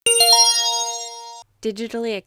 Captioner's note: chime